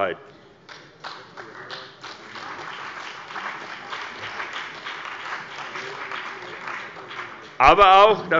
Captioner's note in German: Beifall bei der CDU und dem BÜNDNIS 90/DIE GRÜNEN